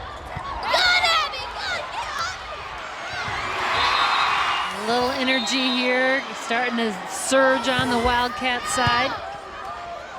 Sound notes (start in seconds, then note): 3.4 crowd and players cheering